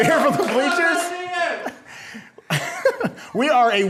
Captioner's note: audience cheers